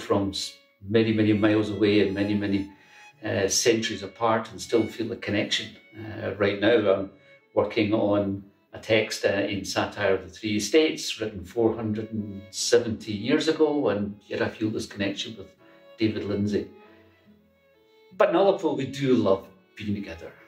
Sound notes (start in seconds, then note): none